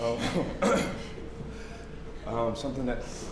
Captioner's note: clears throat